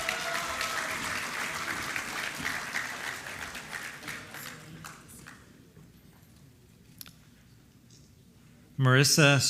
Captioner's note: applause